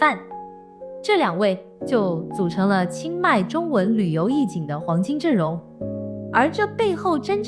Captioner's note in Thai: ภาษาจีน